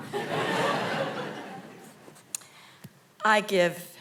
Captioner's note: audience laughing